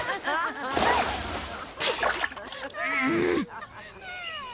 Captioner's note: laughter